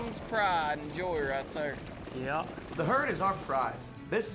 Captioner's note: hoof beats